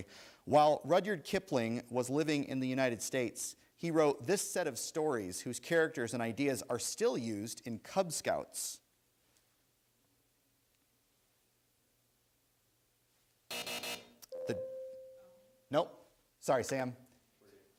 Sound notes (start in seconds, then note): 13.5 buzzer sounds